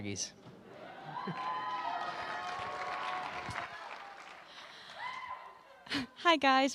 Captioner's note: cheering